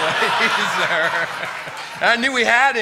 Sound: laughter

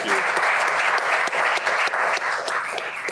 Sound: applause

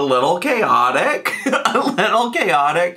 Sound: laughing

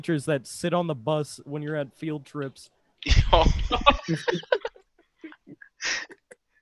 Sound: sighs

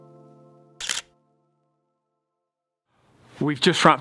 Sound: camera shutter clicks

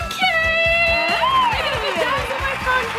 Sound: audience applause

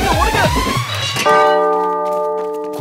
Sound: bell tolling

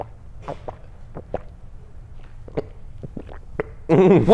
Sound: chugging

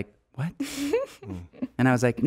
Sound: laughing

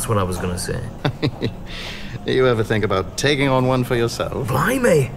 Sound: chuckles

